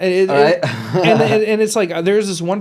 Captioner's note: laughs